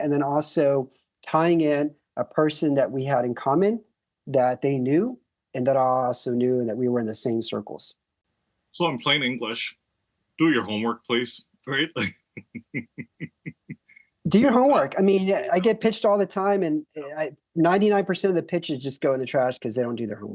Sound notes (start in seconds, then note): 12.4 laugh